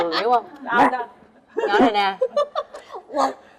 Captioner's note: lauging